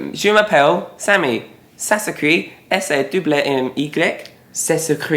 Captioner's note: speaking French